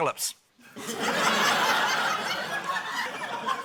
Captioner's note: laughter